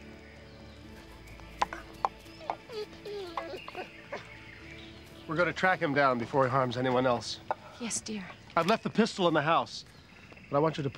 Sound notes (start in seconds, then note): 2.3 dog whining